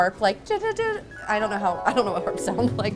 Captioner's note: imitates harp; harp trills